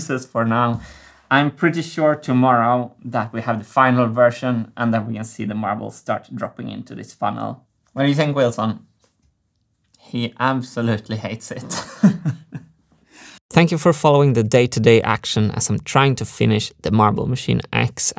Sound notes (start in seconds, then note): 11.6 chuckles